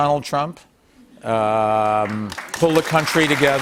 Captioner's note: applause